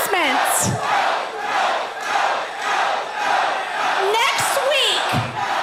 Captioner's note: crowd cheering